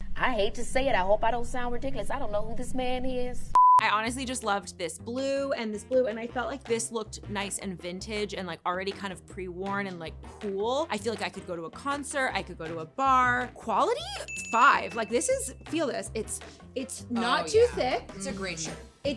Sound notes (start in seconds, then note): 3.6 electronic beeping; 14.2 bell ringing